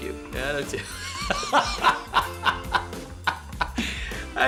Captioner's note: laughs